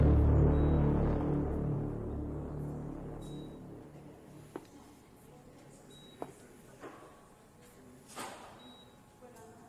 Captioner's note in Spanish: Sonido de telemetría